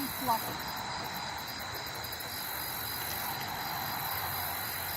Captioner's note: traffic humming; crickets chirping